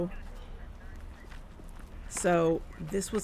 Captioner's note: walking